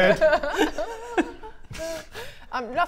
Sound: unreassuring giggles

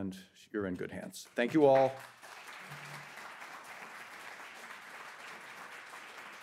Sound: audience applauding

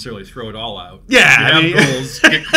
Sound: laughs

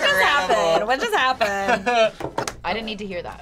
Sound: laughs

